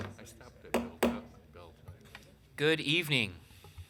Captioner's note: gavel pounding